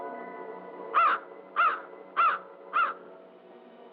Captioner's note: caws